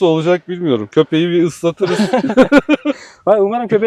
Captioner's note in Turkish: kahkaha